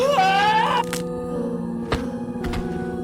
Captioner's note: sound of neck breaking